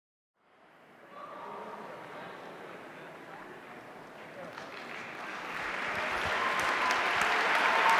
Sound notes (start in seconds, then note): 0.9 audience chattering; 5.5 audience cheering